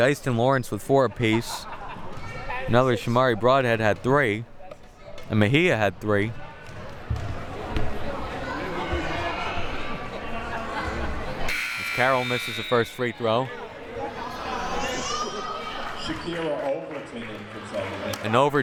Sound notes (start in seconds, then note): 7.8 audience chattering